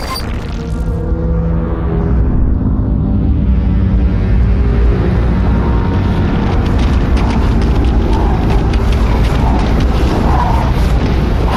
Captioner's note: audio distortion, nefarious droning, cracking and crumbling noises